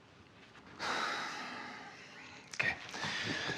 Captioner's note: Frank exhaling